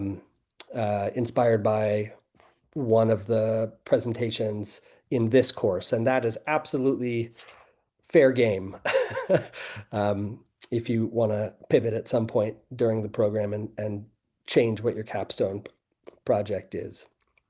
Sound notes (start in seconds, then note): 8.7 laughing